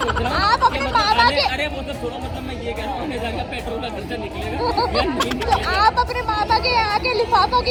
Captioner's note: laughter